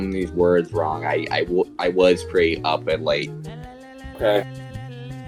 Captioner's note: stutters